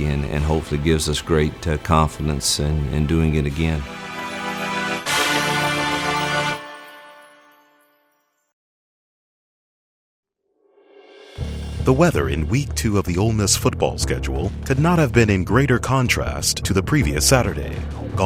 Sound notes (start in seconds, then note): 11.1 quiet dramatic music; 12.0 voiceover